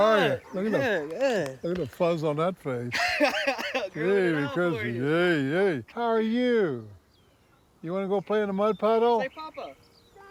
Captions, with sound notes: How are you? - Good, good. - Look at the fuzz on that face. - [laughs] growing outward. - Really fuzzy. Hey, hey. How are you? You want to go play in the mud puddle? - Say, "Papa."